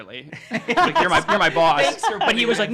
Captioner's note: laughing